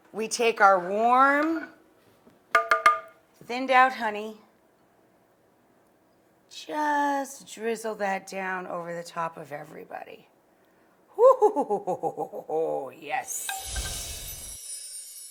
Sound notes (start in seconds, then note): 11.2 gleefully chuckling; 15.0 chiming sound effects